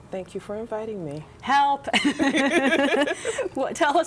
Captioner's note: laughter